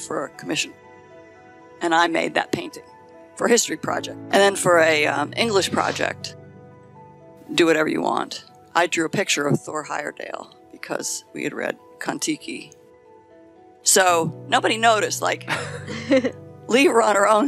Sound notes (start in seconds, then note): 15.5 laughing